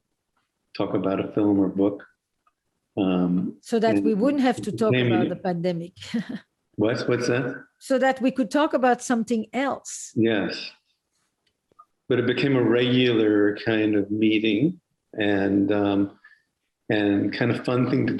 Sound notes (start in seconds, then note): 4.8 laughter